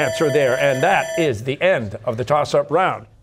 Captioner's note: bell ringing